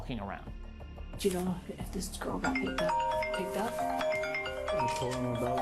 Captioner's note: cellphone ringing